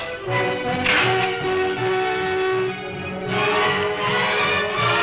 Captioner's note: cell clacks; dramatic music